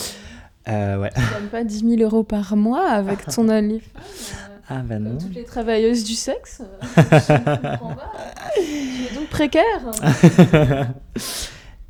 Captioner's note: laughs